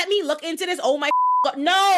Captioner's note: beep